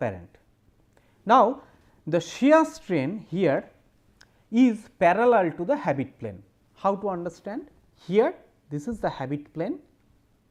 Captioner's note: distortion